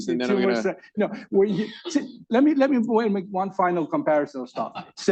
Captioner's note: laughs